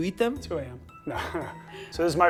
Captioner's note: laughs